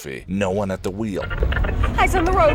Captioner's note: radio fiddling